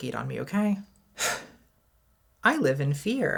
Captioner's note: sighs